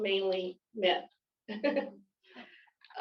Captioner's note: chuckles